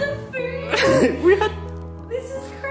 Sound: laughs

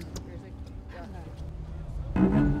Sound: murmuring

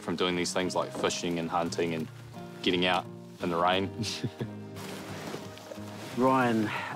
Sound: chuckles

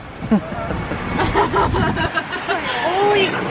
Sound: laughing

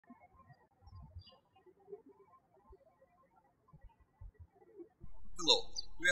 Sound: birds chirping

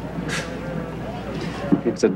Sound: George scoffs

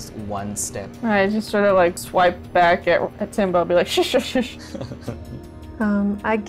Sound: laughter

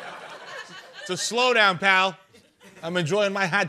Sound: brooklyn accent

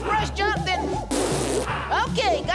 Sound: raspberry Sound

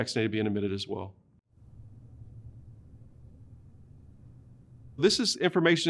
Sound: silence

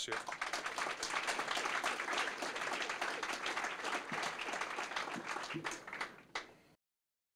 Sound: applause

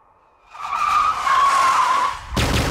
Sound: tires screeching

